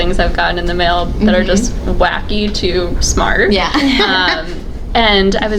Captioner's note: laughs